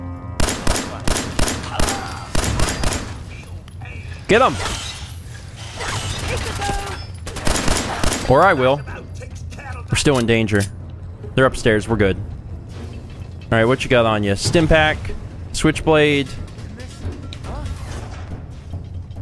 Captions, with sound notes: *BLAM! BLAM! BLAM! BLAM! BLAM!* *BLAM! BLAM! BLAM!* Get 'em! *BLAM! BLAM! BLAM!* Or I will! We're still in 'Danger.' They're upstairs, we're good. Alright. Whatcha got on you? 'Stimpak.' 'Switchblade.'